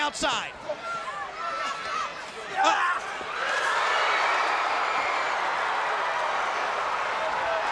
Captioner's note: crowd cheering